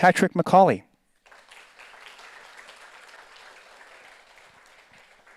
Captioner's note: audience applauds